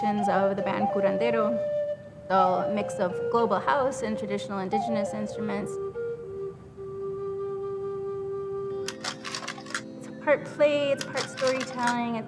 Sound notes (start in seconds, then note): 5.3 solemn music; 8.9 clicking